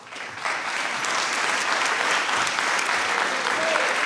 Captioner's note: applause